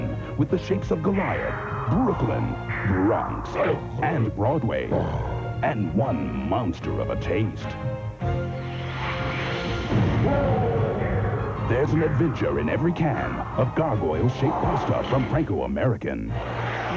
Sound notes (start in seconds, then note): 9.6 explosion, Roaring